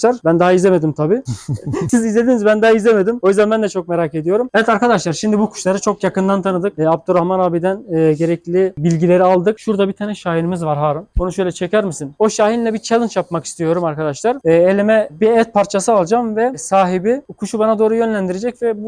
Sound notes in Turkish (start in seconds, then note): 1.2 Gülüşmeler